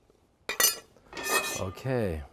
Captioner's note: knife clinking; pan ringing